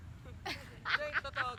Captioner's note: laughs